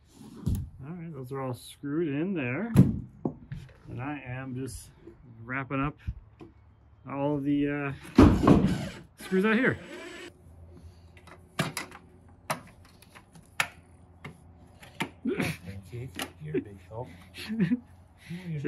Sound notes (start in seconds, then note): 8.3 drill whirring; 12.5 metal clicking; 15.2 laughing